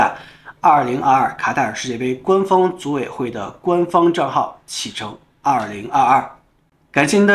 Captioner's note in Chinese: 中文